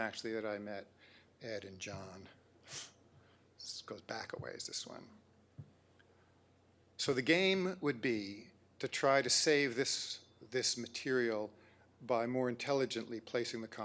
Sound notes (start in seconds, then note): none